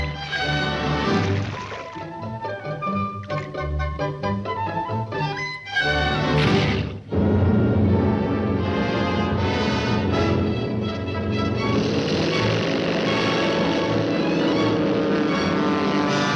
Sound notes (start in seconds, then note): 6.6 water splashing; 12.1 Daffy imitating airplane rudder